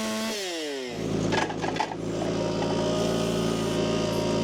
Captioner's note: machine rumbling